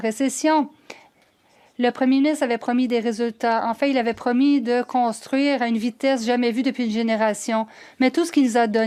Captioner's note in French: voix de l'interprète